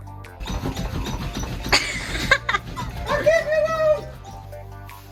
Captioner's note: laughter